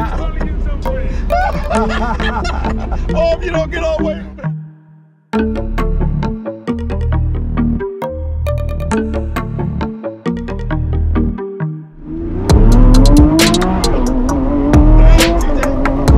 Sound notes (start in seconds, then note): 1.1 laughs; 5.9 suspenseful music; 11.9 engine revving